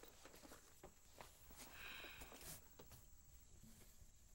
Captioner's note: sighs